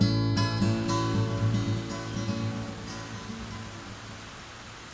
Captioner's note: rain pouring